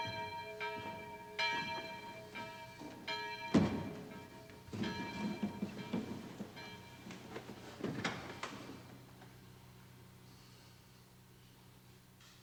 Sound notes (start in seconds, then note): none